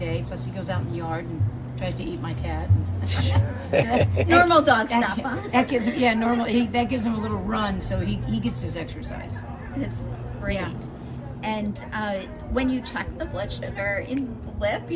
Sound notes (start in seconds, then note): 3.2 laughs